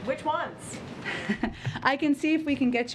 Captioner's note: laughs